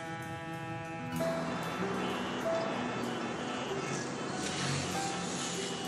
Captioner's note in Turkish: Korna sesleri